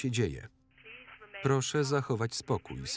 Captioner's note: intercom